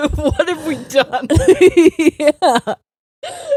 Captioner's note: both laughing